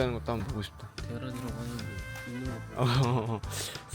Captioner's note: deep breath